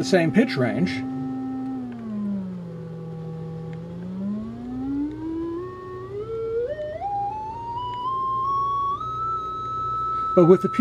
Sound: droning sound varies in pitch

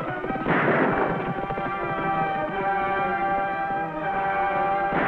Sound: gunshots booming

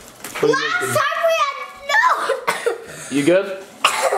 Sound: coughs

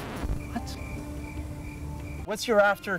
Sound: crickets

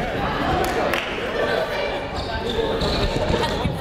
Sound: crowd chatting

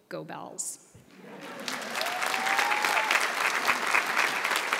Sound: audience applauds

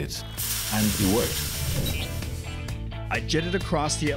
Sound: fog hisses

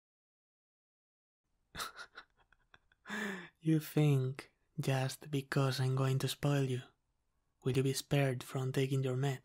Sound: proud laugh

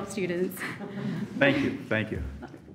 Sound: all laugh

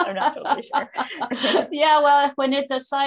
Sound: laughter

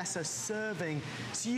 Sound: counting

